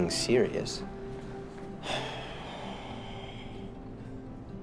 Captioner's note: sigh